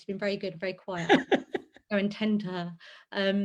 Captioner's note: laughs